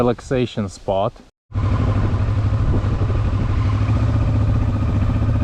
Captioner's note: motorcycle engine